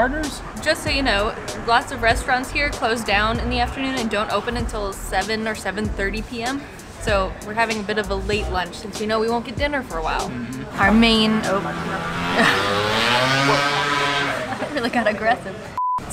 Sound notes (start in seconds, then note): 10.0 loud motor sound